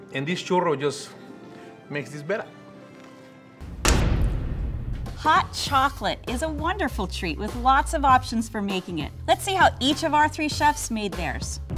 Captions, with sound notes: And this churro just makes this better. [stick banging] - Hot chocolate is a wonderful treat with lots of options for making it. Let's see how each of our three chefs made theirs.